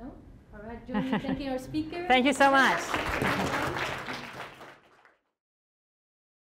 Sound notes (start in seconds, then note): 2.3 applause